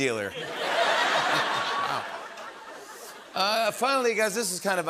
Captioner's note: laughter